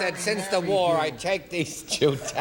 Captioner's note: everybody laughing